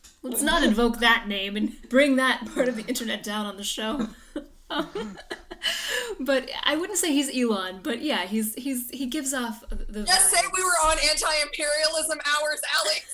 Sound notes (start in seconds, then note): 3.8 giggles